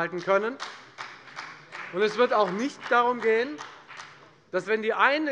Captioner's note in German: Beifall bei der FDP